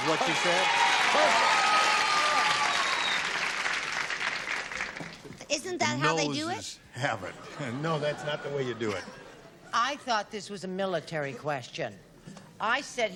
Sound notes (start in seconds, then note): 2.4 cheering